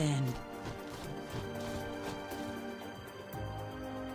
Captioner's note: wings flapping